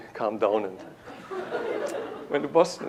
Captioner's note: laughter